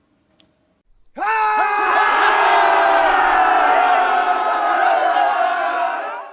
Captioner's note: shouts of joy at reaching 1,000 subscribers